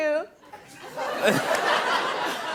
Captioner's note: laughter